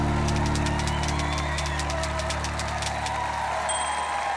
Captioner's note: typewriter keys clacking